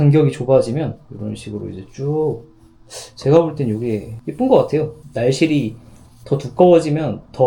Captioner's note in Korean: 콧방귀